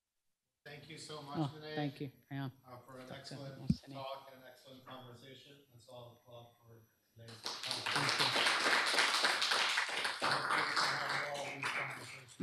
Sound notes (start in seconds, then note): 7.2 applause